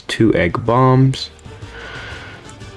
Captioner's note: inhales Oxygen